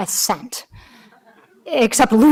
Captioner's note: audience laughing